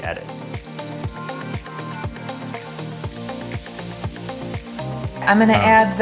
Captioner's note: upbeat music; oil sizzling